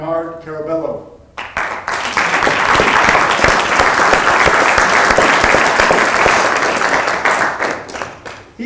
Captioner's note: applause